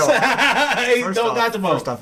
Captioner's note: laughing